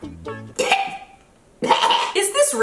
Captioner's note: gagging